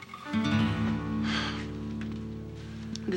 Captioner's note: exhales